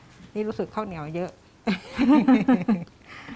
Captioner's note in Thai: เสียงหัวเราะ